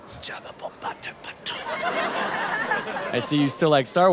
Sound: whispering

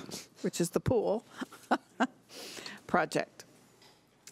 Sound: laughing

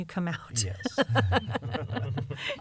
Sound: laughter

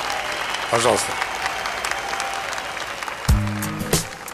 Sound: applause

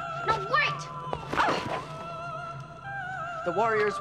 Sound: Vara groans

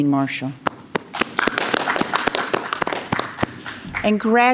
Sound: crowd clapping

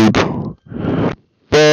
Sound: inhales

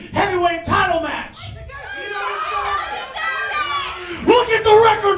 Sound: crowd yelling

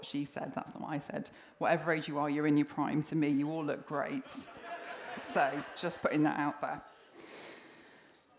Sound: laughter

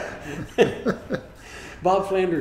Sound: laughing

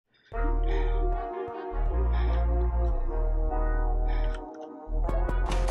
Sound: heavy breathing

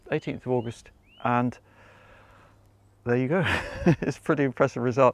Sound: chuckles

